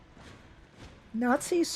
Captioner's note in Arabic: صوت الاحذية